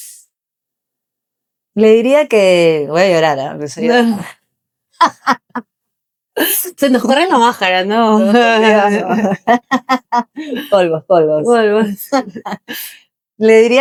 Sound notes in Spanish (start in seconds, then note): 4.6 risas